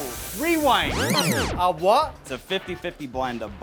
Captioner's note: record rewinding